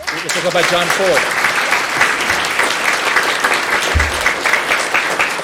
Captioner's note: applause